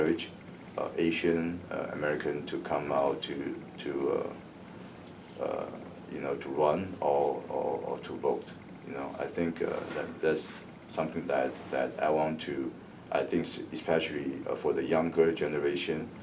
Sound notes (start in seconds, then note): none